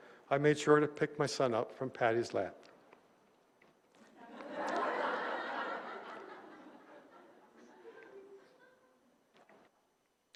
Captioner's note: laughter